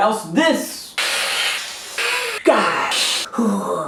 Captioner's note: hissing